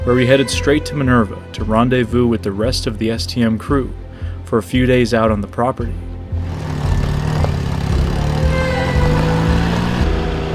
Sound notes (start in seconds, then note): 6.9 engine rumbles